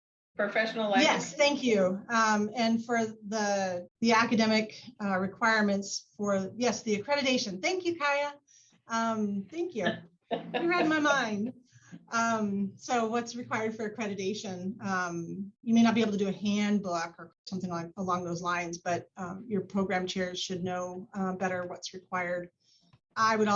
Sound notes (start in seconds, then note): 10.4 laughter